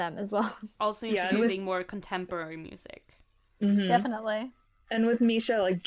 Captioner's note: interjections of agreement